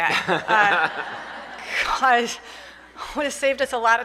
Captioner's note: laughter